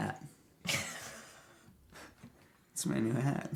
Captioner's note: laughing